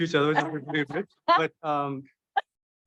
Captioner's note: laughs